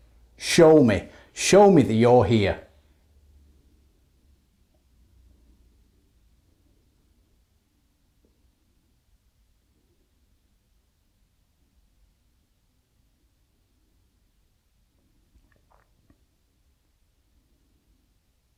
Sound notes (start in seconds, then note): 2.5 silence